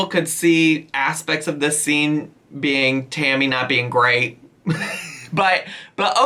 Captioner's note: laughs